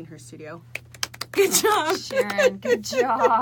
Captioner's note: both clapping